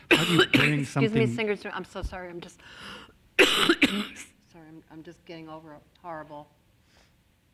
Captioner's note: coughs; coughs